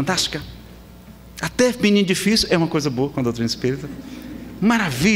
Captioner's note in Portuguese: risadas